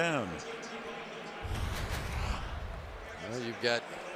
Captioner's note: pa announcement